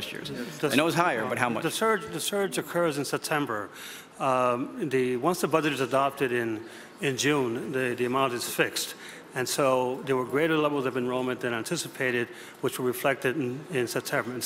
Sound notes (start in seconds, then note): none